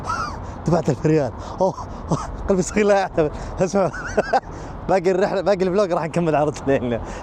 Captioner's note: laughs